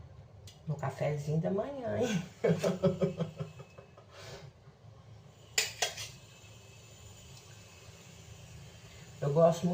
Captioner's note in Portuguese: risadas